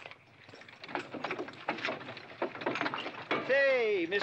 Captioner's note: carriage rattling